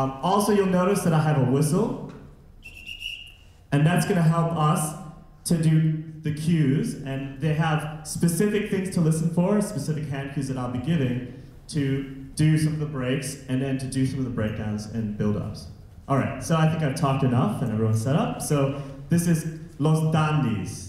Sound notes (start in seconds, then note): 2.6 whistle blowing